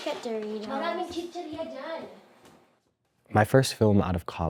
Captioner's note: mom speaking in foreign language